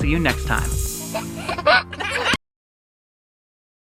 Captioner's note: giggling